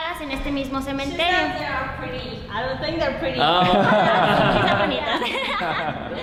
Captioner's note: laughing